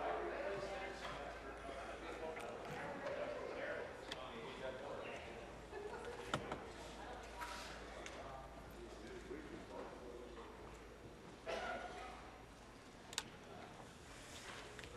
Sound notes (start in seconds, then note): 2.1 conversation din